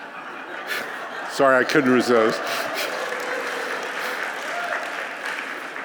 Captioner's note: applause